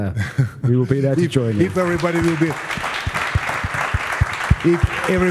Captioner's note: applause